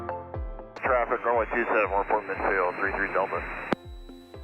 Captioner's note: radio chatter